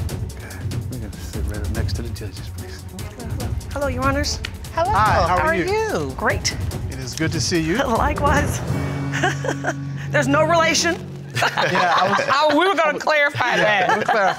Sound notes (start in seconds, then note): 8.8 chuckles softly